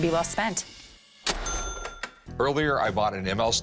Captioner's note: cash register dings